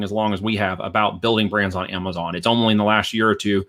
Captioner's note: none